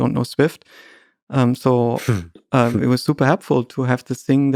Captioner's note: Lex chuckles